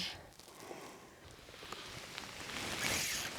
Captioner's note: line zipping